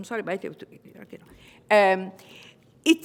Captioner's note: foreign language